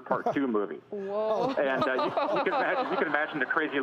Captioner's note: laughter